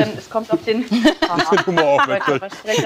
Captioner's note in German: Lachen im Studio